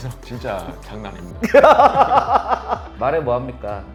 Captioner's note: laughs